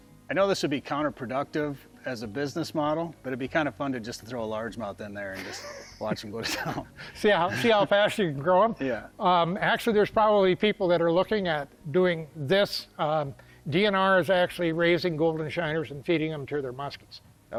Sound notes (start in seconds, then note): 5.3 both chuckle